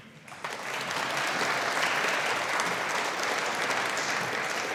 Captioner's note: audience applauding